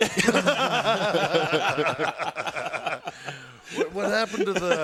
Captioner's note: laugh